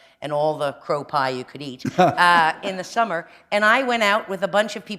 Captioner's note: chuckle